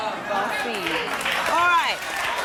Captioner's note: audience clapping and shouting